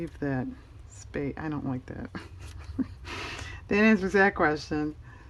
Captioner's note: laughs